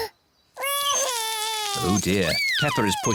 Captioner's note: crying